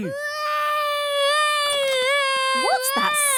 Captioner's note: baby wailing